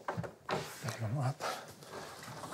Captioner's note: quietly